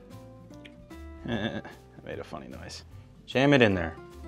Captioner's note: laughs